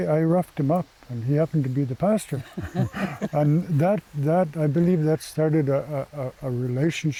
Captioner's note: they Laugh